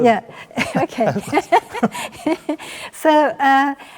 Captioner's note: both chuckle